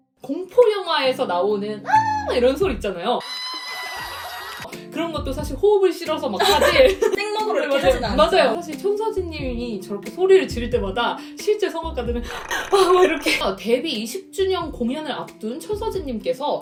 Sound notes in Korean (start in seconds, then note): 3.2 에라 모르겠다 냅다 비명